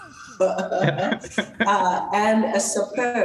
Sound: both laugh

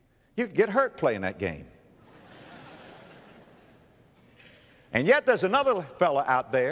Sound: audience laughter

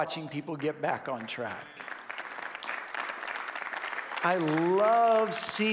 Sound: congregation applauds

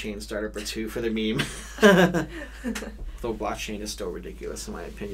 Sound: both laugh

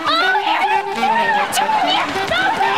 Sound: screaming

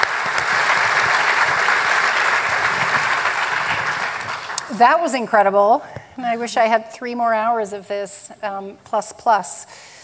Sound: applause

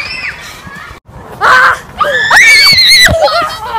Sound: screaming

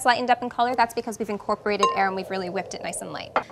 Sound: wind

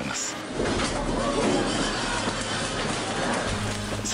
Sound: objects clanking

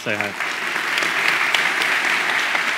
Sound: crowd

